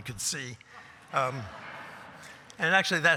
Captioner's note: laughter